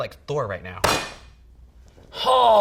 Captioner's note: cleaver smacks board